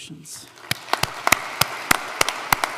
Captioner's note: applause